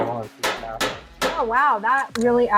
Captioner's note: banging